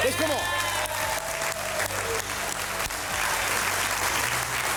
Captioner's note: all applauding